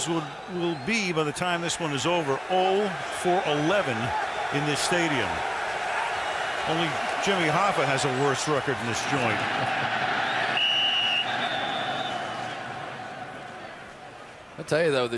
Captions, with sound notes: So the Bengals will-- will be, by the time this one is over, 0 for 11 in this stadium. [cheering] Only Jimmy Hoffa has a worse record than this joint. [whistle blowing]